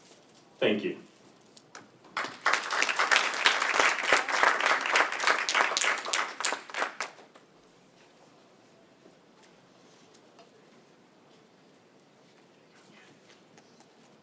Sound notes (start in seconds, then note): 2.1 applause